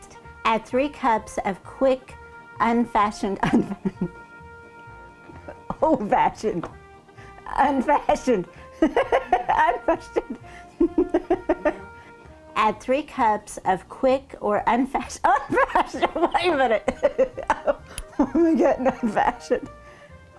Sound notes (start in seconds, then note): 10.7 laughing; 15.2 laughing